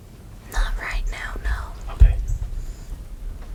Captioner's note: whispering